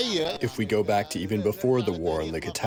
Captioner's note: through translator